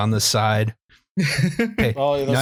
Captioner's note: laughs